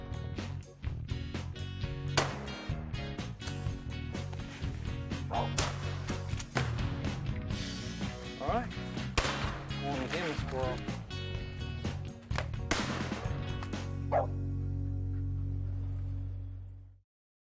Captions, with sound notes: (gunshot) - Alright. (gunshot) - Here's a squirrel.